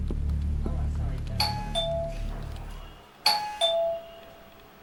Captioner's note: door bell